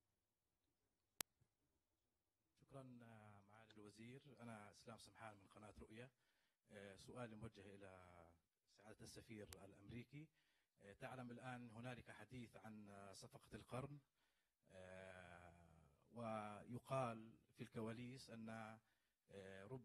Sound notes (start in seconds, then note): 6.0 speaks in Arabic